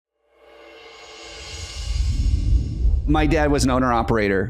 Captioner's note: air whooshing